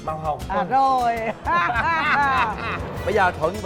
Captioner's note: both laughing